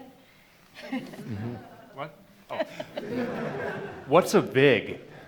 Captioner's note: laughter